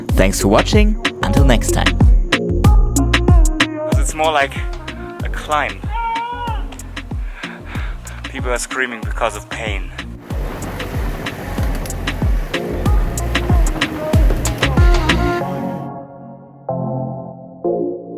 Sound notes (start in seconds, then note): 6.5 distant yelling; 13.2 upbeat music